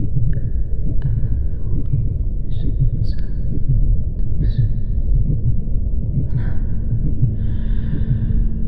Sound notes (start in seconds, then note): 2.8 Iris whispering; 2.8 muffled heartbeat